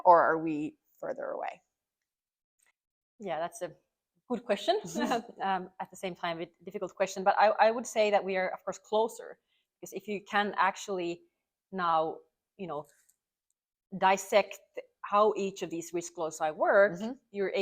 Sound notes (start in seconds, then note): 4.9 both chuckle